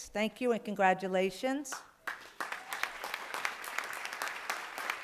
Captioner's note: applause